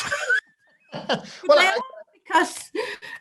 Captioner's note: both laugh